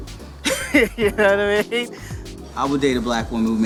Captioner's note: laughing